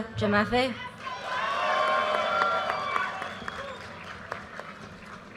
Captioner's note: audience cheers and applause